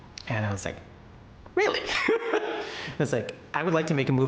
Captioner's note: laughs